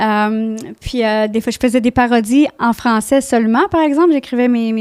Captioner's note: in french